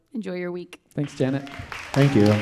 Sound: audience clapping

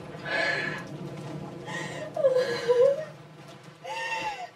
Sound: girl Sobbing

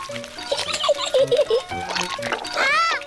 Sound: giggles

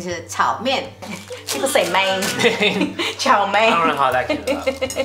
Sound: laugh

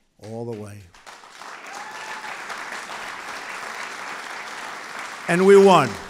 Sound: applause

